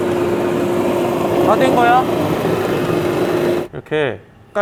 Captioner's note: machine sanding over